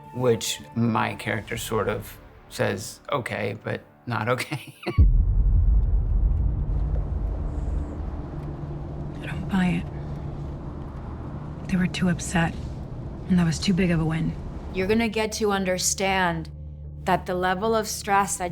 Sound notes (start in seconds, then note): 4.4 chuckles; 5.0 tense music; 6.6 car engine humming